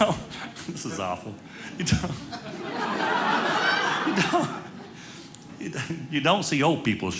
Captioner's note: audience laughing